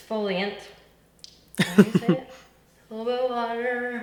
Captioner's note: laughs